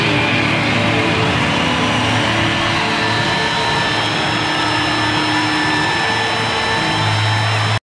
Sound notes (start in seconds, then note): 0.0 audience applauding